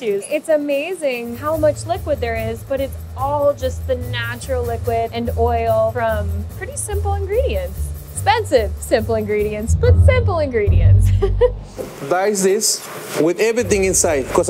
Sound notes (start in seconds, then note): 11.0 laughing